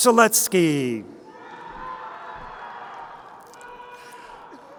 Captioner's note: crowd cheering